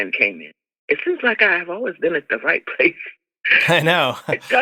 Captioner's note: laughter